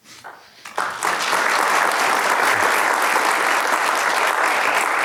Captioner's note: audience applauding